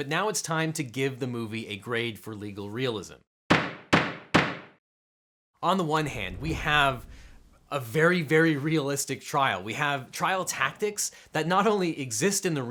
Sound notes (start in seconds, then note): 3.5 gavel bangs